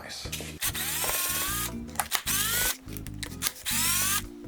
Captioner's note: drill buzzing